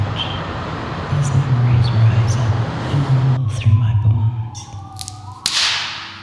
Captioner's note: whispering; loud cracking